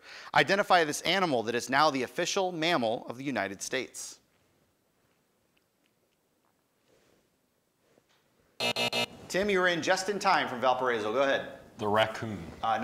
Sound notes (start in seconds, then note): 8.6 time buzzer